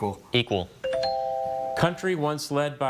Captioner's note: bell chimes